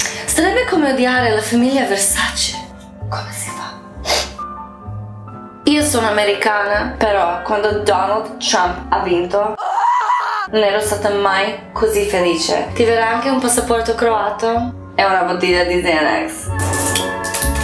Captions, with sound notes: IT WOULD BE LIKE HATING THE VERSACE FAMILY! HOW COULD YOU??? *SNIFFS* I'M AMERICAN, BUT WHEN DONALD TRUMP WON THE PRESIDENCY, *SATANIST SCREAMS* I'VE NEVER BEEN SO HAPPY TO HAVE A CROATIAN PASSPORT AND A BOTTLE OF XANAX